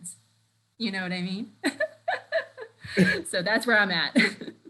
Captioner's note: laughs